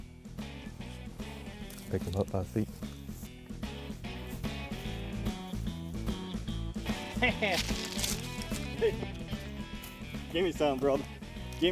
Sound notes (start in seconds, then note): 0.3 upbeat music; 4.1 laughing